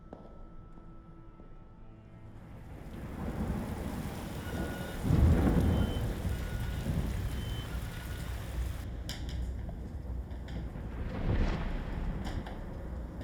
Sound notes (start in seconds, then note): 2.4 rain pouring; 2.4 thunder rumbling